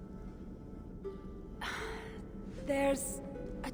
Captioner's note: sigh